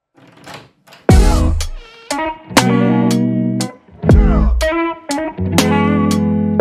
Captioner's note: door rattles; sexy jazzy music